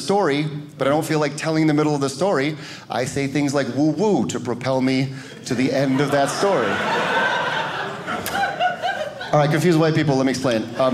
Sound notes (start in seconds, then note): 5.4 audience laughing